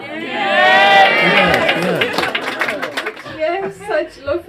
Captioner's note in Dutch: klapt